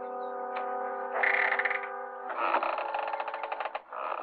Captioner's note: door creaking